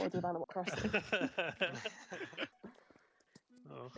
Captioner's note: laughter